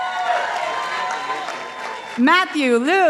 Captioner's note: participants applauding